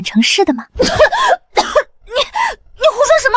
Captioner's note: cough cough